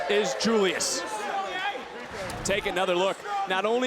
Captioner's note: audience chattering; screen whooshing